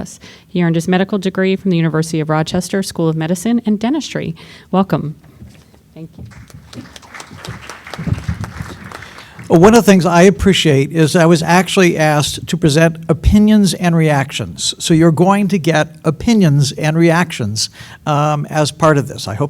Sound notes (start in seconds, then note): 6.2 applause